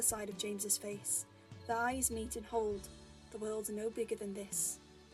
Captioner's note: none